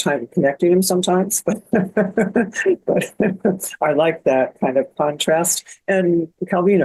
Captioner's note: laughs